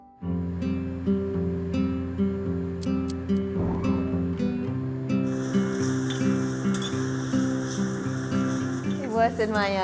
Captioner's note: cooking sounds